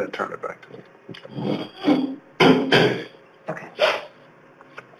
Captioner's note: metal scraping